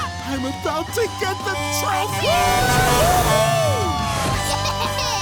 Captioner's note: truck horn honking